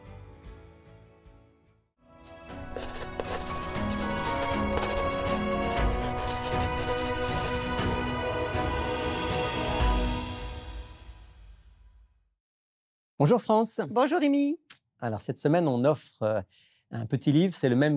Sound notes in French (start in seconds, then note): 2.0 musique douce; 2.2 frottements d'un crayon